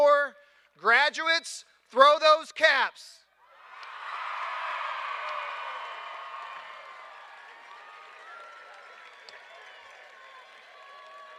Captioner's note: cheers and applause